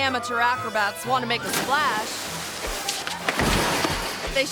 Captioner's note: water sloshing; feet pattering; fence rattles